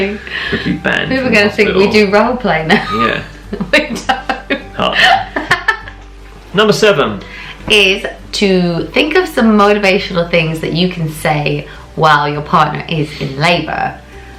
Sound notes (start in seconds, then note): 4.7 laughing